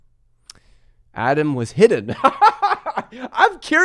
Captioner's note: laughs